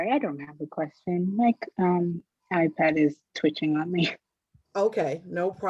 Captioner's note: chuckles